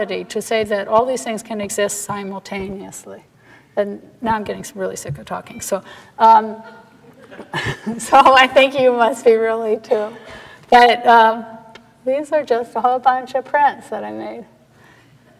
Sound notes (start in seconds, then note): 7.0 laughing